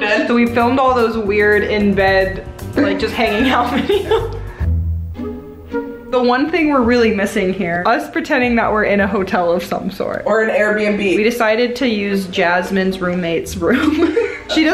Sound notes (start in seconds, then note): 2.9 both laughing